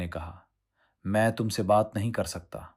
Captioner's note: silence